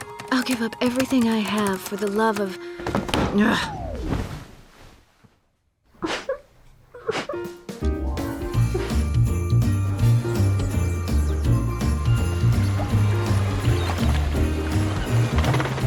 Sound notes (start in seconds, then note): 0.0 typing resumes; 6.1 whimpering